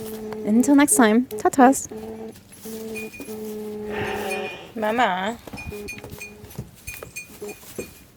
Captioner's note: sheep sounds, camera gears focusing